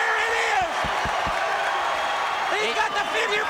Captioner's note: crowd cheering